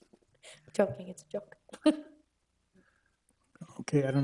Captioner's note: laughs; laughs